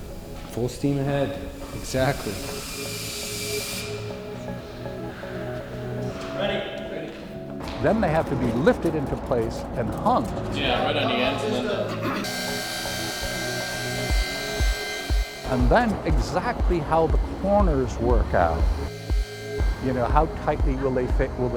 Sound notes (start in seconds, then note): 2.6 drilling; 10.8 workers conversing, drilling